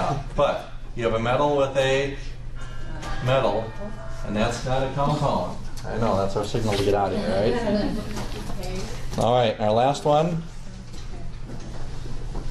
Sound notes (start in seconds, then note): 2.7 bell ringing; 6.7 students muttering